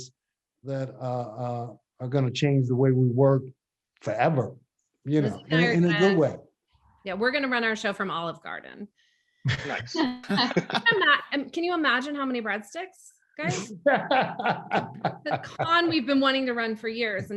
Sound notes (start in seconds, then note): 9.4 group laughs; 13.4 laughs